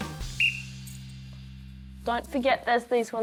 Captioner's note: blows whistle